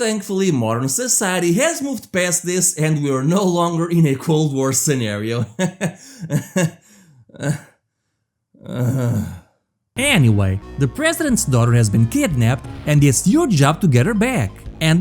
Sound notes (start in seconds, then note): 5.4 awkward laugh